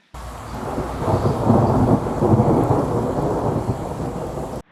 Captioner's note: thunder noise